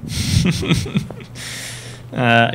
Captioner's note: laughs